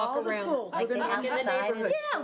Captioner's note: overlapping chattering